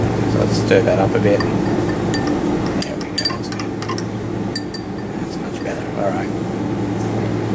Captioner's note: clink, clink